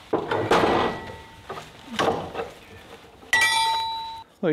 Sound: metal clanging

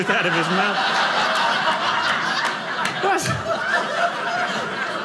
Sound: audience laughing

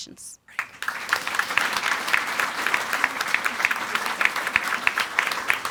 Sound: audience applauding

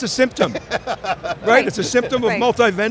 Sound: laughs

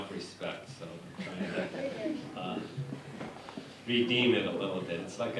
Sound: laughter

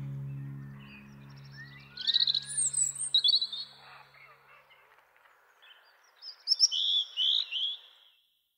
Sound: robin song

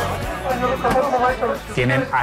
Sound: speaks in turkish

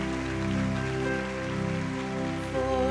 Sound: applause

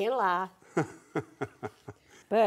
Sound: laughing

